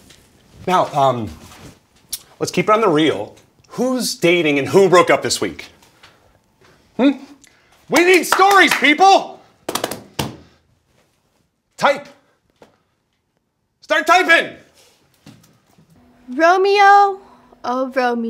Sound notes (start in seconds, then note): 7.9 clapping; 9.9 taps on table